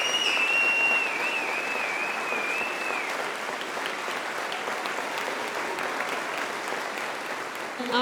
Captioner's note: applause